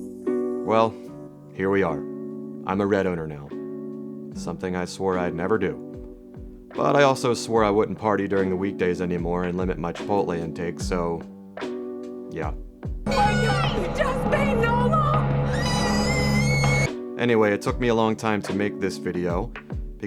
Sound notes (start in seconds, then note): 15.6 screams